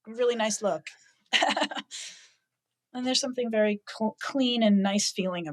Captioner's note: laughs